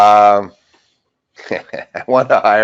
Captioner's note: laughing